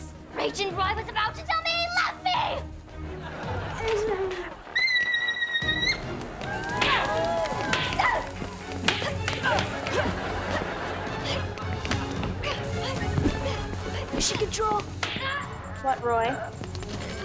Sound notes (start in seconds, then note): 6.5 dramatic music; 7.7 grunting